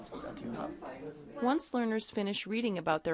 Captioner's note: voiceover